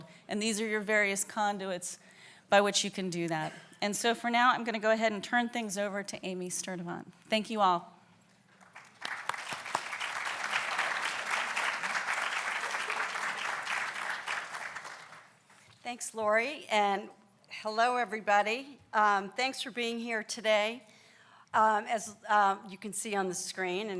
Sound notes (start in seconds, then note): 8.5 applauds